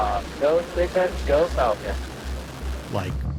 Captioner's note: audio blurs